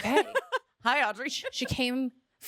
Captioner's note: laughing